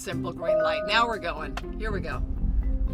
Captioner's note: car chimes